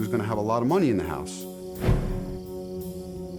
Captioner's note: insects chirping